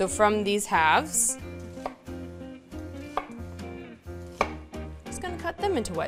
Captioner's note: bouncy music continues; knife clacking